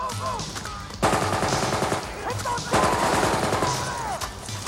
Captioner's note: guns firing